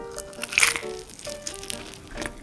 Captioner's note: crunch!!